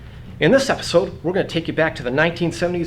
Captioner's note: none